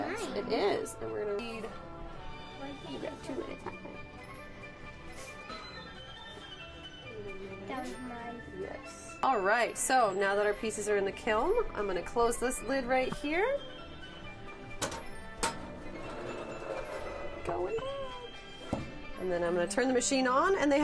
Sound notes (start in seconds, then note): 4.4 playful music; 14.8 metal rod clicking